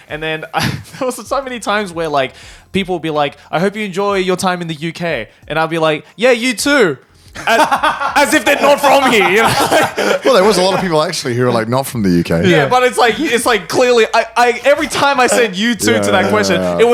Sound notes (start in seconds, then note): 0.5 chuckles; 7.4 chuckles; 7.4 laughing